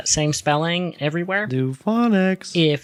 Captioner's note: singsong